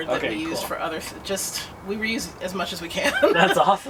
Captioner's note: laughter